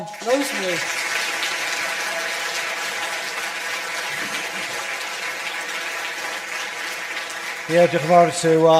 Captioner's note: audience applause